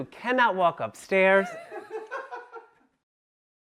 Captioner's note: people laughing